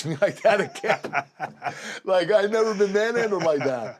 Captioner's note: laugh